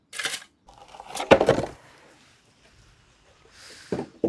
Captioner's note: wood thumping